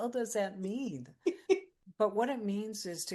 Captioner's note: laughs